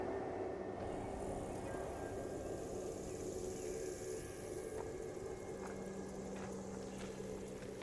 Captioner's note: birds chirping; insects buzzing